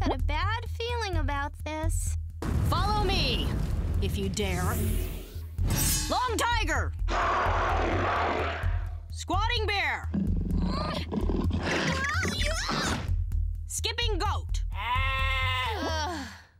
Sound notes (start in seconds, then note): 7.1 roaring; 10.1 growling; 15.1 bleating